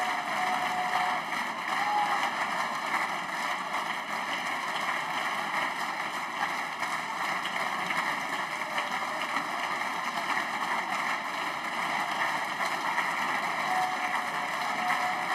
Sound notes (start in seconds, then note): 0.0 applause